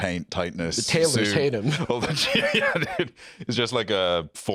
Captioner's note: laughing